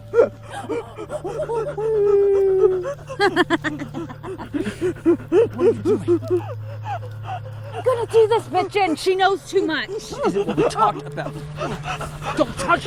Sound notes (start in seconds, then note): 0.2 Andrea gasping; 3.3 Katyn laughing; 4.5 Andrea gasping; 11.7 Andrea gasping